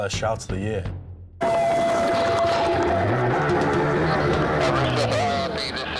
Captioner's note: alarm blaring; engine rumbling